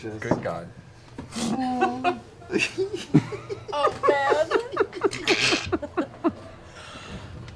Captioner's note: gasps